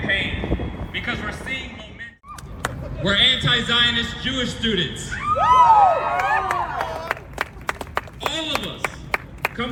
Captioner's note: applause